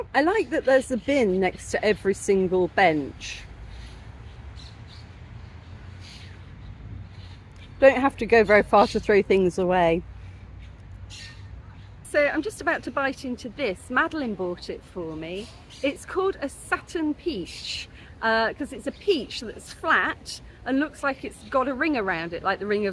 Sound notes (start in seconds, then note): 4.3 birdsong